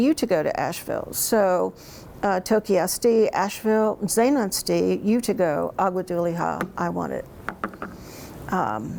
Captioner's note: speaks in Cherokee